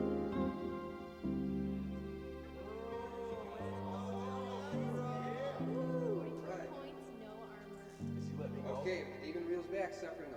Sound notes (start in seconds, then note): 0.0 mellow music continues; 1.1 group chattering